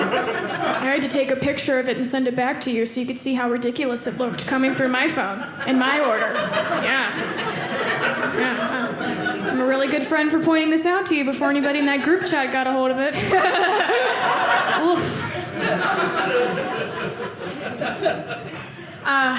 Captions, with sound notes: (audience laughing) I had to take a picture of it, and send it back to you, so you can see how ridiculous it looked coming through my phone (audience laughing) yeah. (audience laughing) I'm really good friends for pointing this out to you before anybody in that group chat got a hold of it. (audience laughing)